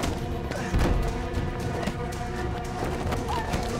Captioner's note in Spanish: Gruñidos